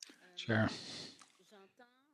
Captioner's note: speaking French